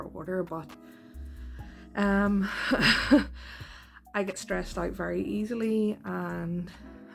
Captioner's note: nervous laugh